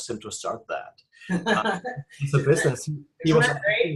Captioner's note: laughing